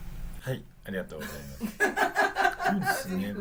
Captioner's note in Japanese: 笑い